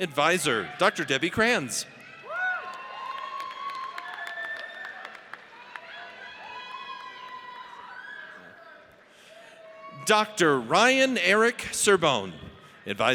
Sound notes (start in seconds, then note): 1.8 audience cheers